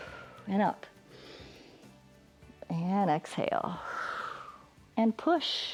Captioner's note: exhales; inhales; exhales